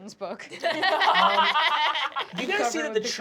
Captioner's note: laughter